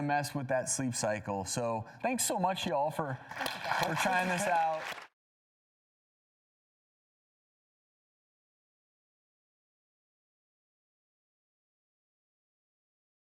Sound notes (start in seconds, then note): 3.3 audience applauds